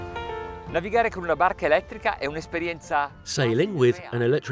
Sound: speaking in foreign language

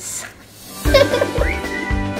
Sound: laughter

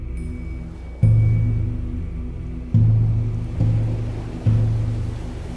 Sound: waves crashing

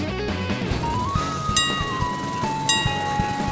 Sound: engines idling; dings; dinging

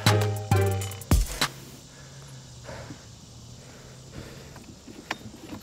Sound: heavy breathing

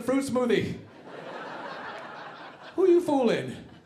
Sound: audience laughing

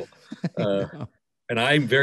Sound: laughing

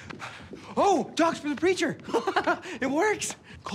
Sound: laughs

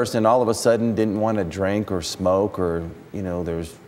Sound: none

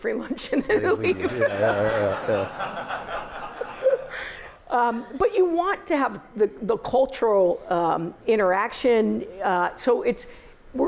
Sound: laughter

